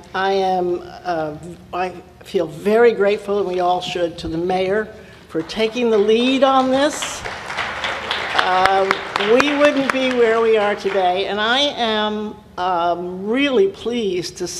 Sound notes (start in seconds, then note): 7.2 applause